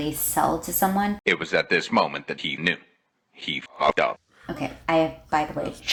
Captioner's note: meme audio